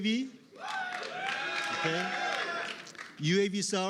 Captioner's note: cheering